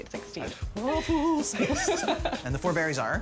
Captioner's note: laughing